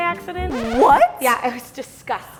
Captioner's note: record scratches